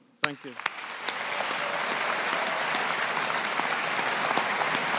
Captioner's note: audience applauding